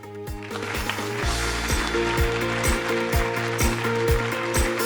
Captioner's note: audience applause